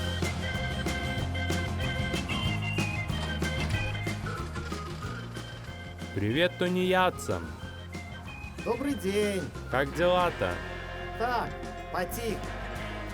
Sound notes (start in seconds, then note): 8.2 speaking Belorussian